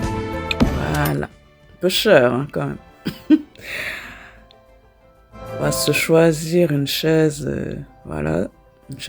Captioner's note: laughs